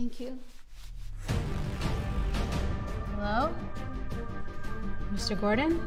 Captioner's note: none